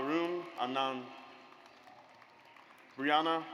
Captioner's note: audience applauds